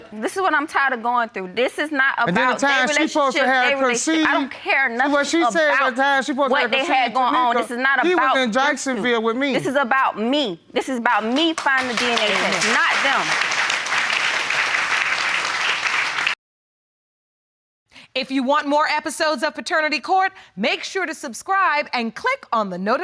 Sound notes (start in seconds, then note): 3.7 protesting; 11.2 audience applauding